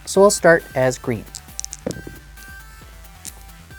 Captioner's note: dice rolling